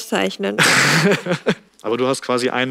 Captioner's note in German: Lachen